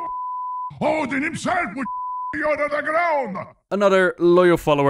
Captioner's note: beep